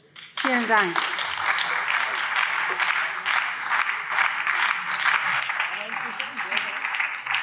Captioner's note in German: Beifall BÜNDNIS 90/DIE GRÜNEN